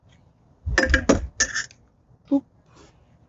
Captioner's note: metal rattling